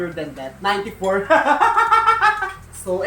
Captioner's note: laughs